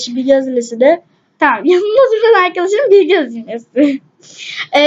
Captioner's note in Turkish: gülüyor